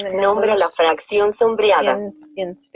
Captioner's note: speaking in foreign language